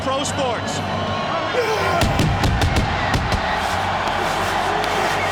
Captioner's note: Goldberg growling; fireworks banging; crowd cheering continues